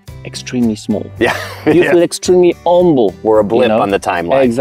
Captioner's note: laughs